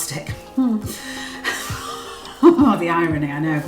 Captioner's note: laughs